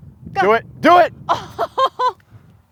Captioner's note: laughs